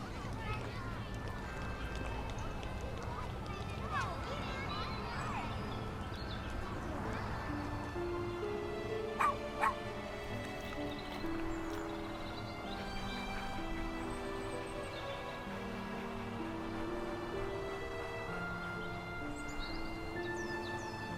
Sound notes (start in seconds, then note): 2.0 birds chirping; 4.4 gentle music; 9.1 dogs barking; 11.7 gentle music; 13.8 birds chirping; 16.4 gentle music; 19.0 birds chirping; 20.9 gentle music